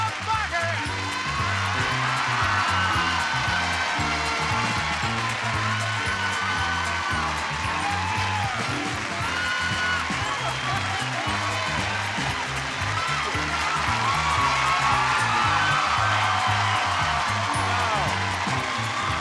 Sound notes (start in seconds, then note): 0.8 upbeat music; 1.7 audience cheering; 13.4 audience cheering